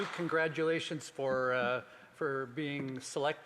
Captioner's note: some Applause